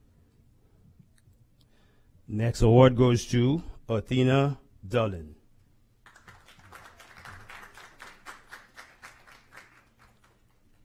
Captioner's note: applause